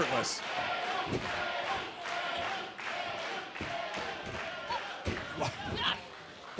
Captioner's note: crowd cheering